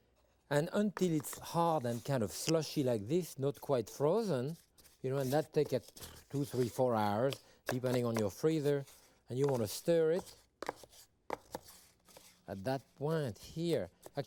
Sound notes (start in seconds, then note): 8.7 spoon tapping